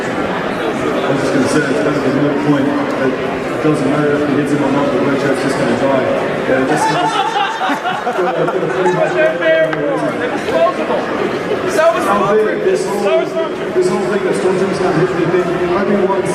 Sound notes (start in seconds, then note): 6.5 crowd Laughs; 9.9 laughs